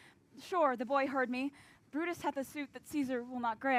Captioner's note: none